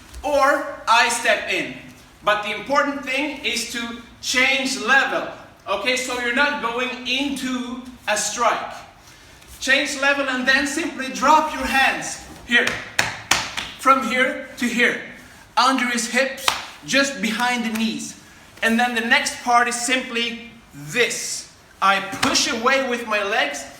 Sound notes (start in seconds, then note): 12.6 pats legs